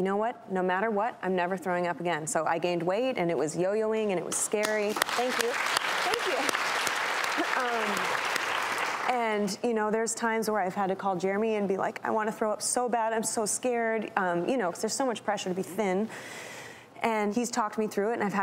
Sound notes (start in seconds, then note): 4.9 audience applause